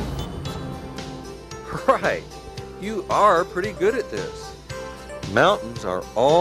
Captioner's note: chuckles